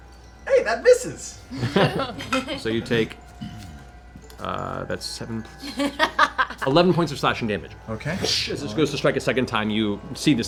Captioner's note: whoosh